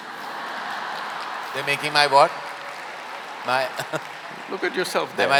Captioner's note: laughter/Applause; laughs